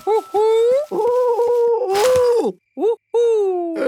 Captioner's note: cooing